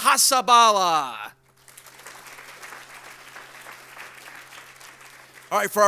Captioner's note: audience applauds